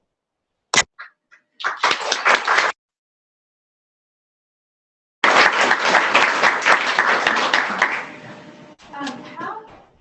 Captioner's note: clapping